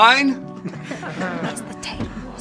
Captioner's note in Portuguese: Risos